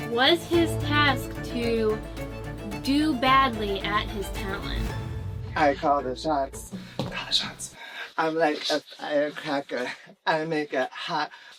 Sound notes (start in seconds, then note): 6.9 whispering